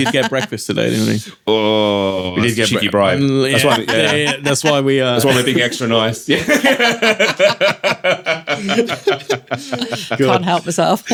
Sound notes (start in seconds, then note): 6.4 laughing